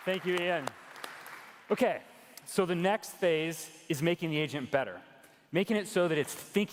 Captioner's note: cheers and applause